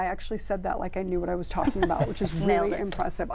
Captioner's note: laughs